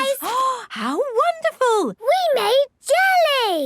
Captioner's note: gasps